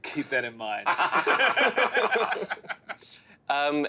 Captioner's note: laughing